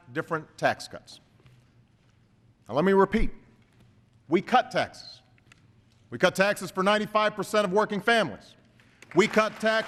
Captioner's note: applause